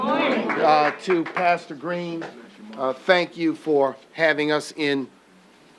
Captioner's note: applause